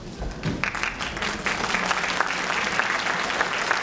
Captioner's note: applause